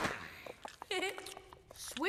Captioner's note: chuckles